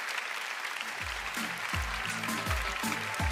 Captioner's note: applause